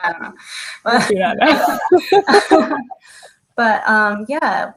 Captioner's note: laughing